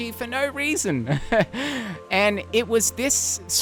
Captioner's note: laughs